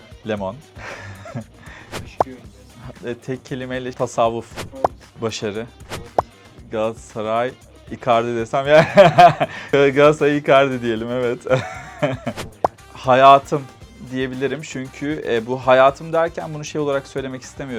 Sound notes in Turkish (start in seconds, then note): 8.7 kahkaha